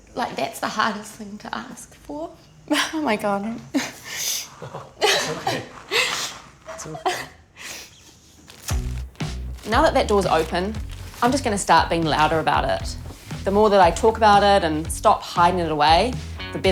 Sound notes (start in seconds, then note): 4.1 sobs